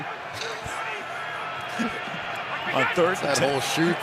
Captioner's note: laughter